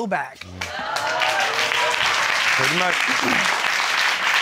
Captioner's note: audience cheers